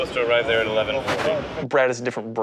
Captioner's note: street noise